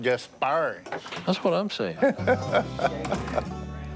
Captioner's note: Godwin laughs